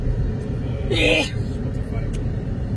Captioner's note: sneezes